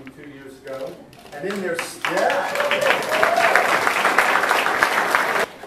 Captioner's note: audience applauds